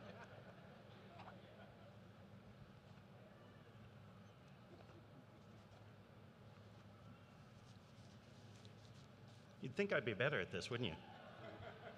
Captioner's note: laughter